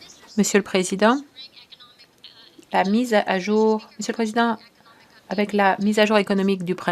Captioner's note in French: voix de l'interprète